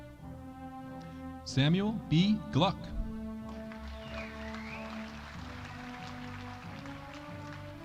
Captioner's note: audience applauding